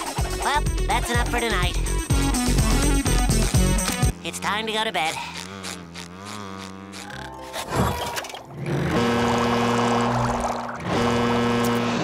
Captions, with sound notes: Well, that's enough for tonight. that can have fun with a jellyfish. It's time to go to bed. [buzzing] [snoring] [honking]